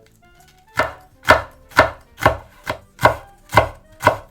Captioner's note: tok Tok Tok